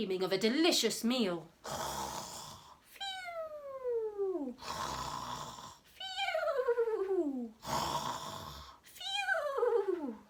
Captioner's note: snoring